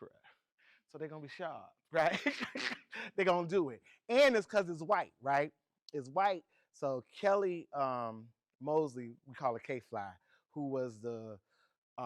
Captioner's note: laughs